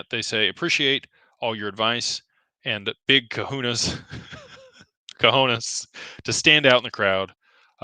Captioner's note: laughter